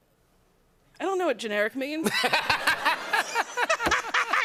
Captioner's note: laughter